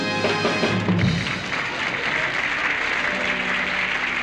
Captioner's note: applause